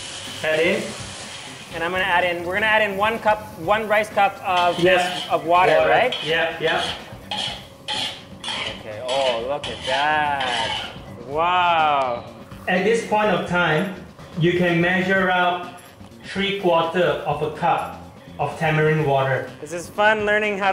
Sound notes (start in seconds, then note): 1.6 sizzling